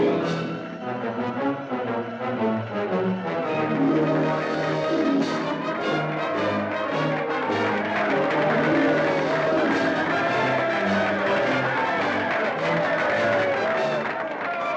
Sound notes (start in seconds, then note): 0.0 upbeat music; 3.9 applause and cheering; 3.9 upbeat music